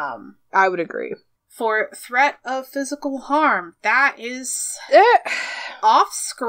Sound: sighs

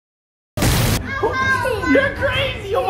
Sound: explosion; exciting music

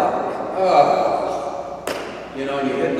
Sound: imitates groaning

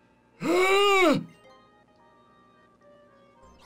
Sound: gasps

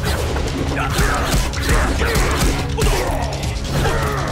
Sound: grunting

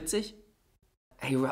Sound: silence

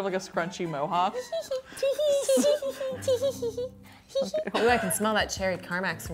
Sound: mischievous laughter

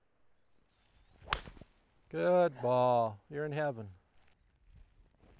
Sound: ping!

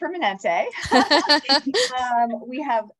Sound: all laughing

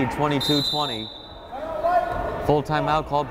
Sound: whistle blows

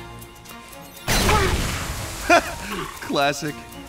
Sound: explosion; chuckles

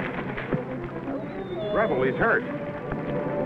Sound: whimpers

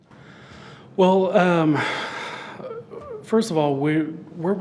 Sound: breathes deeply

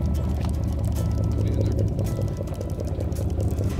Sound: reel clicks

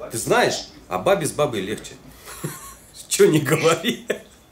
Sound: laughs

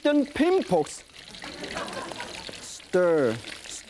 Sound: audience laughing

